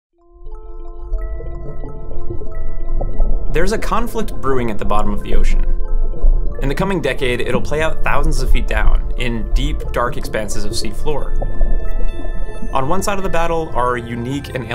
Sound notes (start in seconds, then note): 0.2 subtle music; 0.2 water bubbling